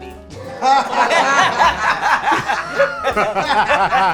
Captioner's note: laughter